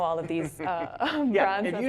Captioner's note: laughs